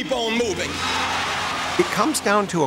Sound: crowd cheering

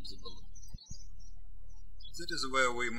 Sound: birds chirping

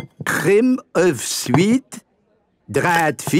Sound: none

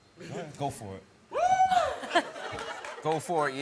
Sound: cheering

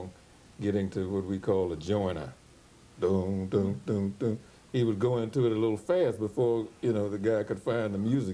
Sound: humms

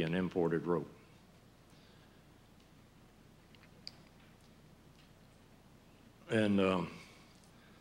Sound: silence

